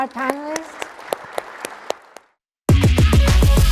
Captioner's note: applause